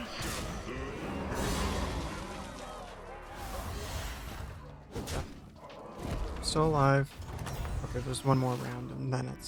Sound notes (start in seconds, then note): 1.7 crowd cheering